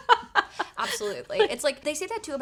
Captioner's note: laughs